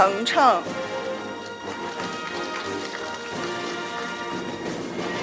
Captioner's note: audience applauding; orchestral music